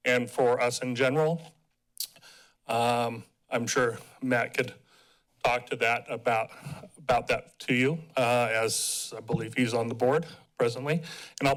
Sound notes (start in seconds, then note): 2.0 tongue clicks